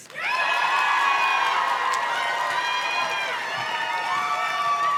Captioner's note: audience cheers and claps